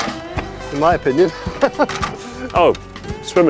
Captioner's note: chuckles